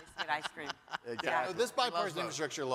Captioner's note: laughs